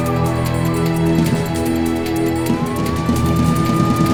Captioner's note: sirens blaring